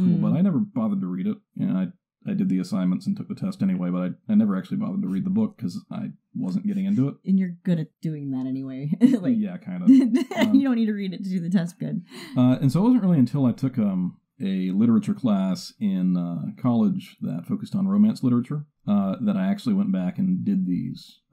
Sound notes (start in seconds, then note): 9.8 laughs